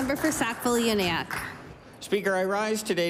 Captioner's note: applause